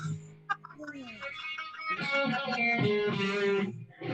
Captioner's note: laughs